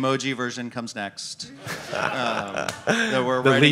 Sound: audience laughing

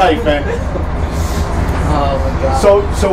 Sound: laughs

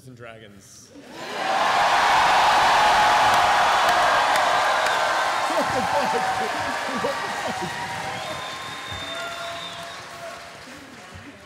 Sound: cheering

